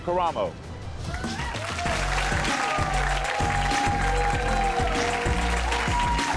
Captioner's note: audience cheering and applauding